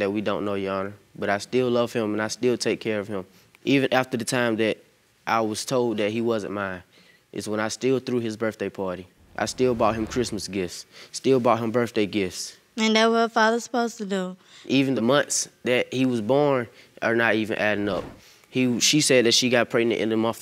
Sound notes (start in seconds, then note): none